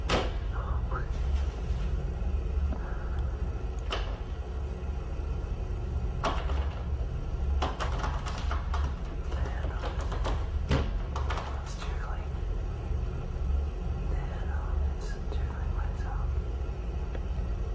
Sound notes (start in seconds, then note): 0.3 banging; 4.2 door knob shaking